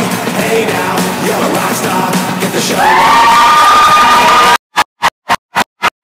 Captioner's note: crowd cheers